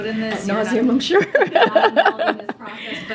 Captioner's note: laughs